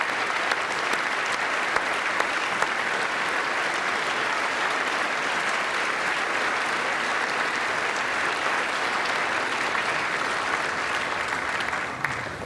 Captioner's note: applause